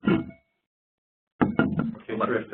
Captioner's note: laughing